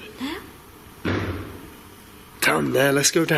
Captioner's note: bang